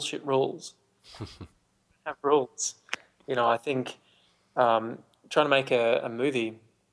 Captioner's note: laughs